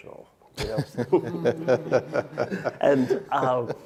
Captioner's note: laughing